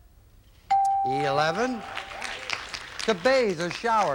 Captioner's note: audience applauding